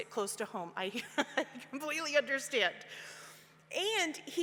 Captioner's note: laughs